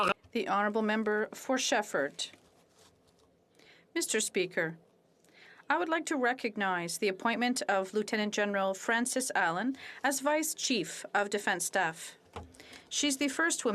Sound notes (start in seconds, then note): 6.4 speaking French